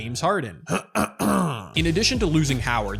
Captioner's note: clear throat audibly